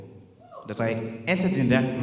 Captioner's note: woman cheers